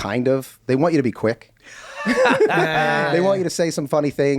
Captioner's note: laughing